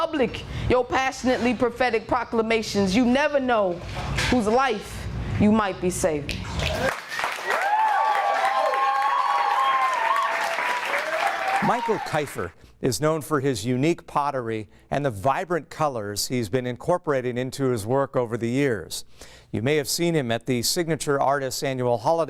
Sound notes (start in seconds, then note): 6.6 audience cheering